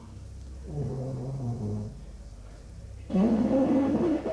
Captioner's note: snoring